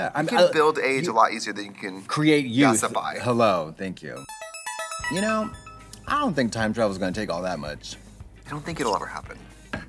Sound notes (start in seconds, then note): 4.2 ringing sound